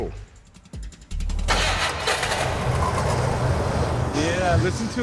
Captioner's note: car starting